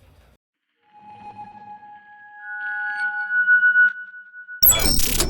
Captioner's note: squeaky effect